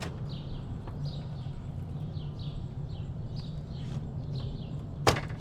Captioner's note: birds chirping; door thudding